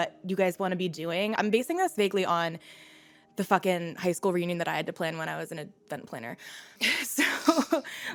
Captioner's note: laughs